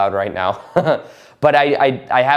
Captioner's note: chuckling